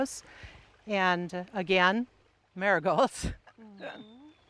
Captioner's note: laughing